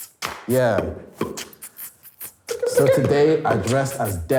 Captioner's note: beatboxing